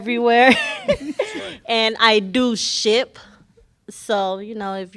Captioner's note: laughter